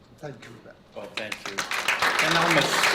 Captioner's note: applause